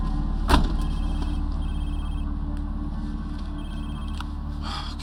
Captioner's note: phone ringing